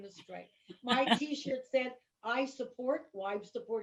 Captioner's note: chuckling